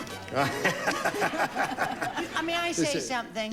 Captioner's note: gene laughing